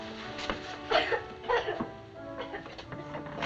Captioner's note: flossie crying